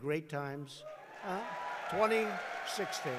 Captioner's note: applause